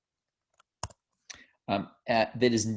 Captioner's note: typing